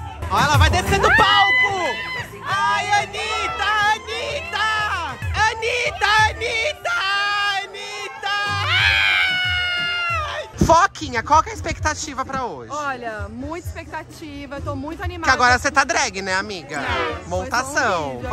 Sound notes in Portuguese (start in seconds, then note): 0.0 grita; 1.0 gritos ao fundo; 5.1 gritando; 8.5 gritos